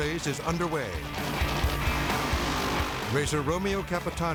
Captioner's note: engine roars